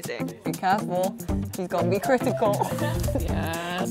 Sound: laughs

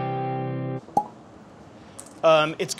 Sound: cork popping

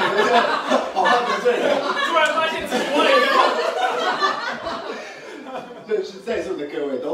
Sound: everyone laughs

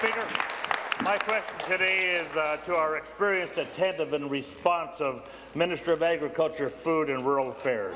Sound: applause; cheers

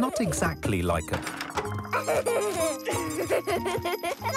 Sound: giggles

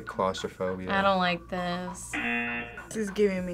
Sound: buzzer rings

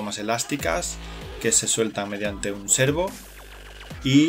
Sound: motor

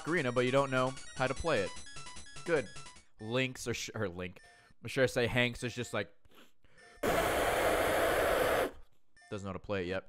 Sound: blowing noises

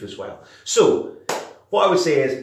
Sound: claps

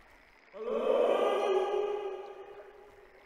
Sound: echoes

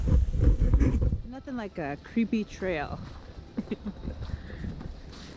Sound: giggles

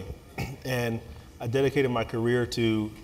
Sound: cough

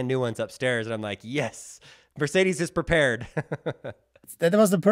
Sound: laughs

